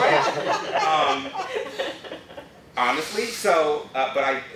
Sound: laughter

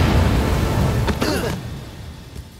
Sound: all grunt

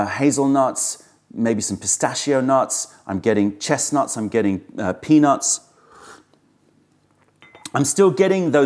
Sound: sips tea

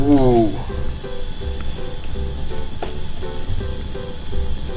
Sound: fizzing

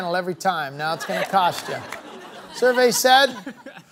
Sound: chattering

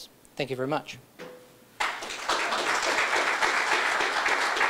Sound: applause

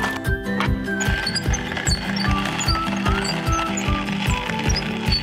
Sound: wheel squeaking

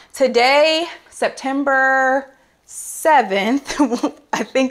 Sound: chuckles

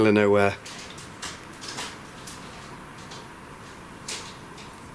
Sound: clattering

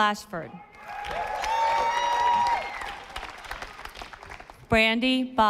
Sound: audience applauding

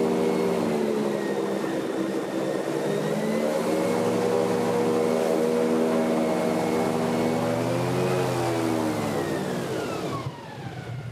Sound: airboat engine whirring

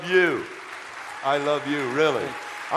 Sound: audience applause

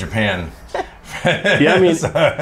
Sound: laughter

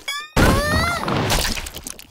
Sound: groaning

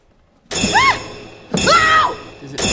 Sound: screaming

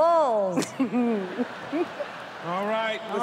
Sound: laughter

